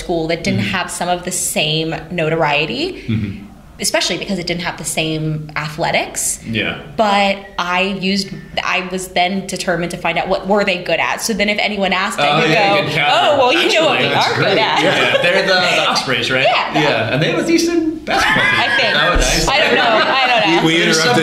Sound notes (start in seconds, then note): 0.0 laughter; 20.5 laughter